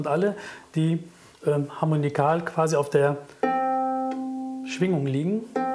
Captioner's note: Hoher Ton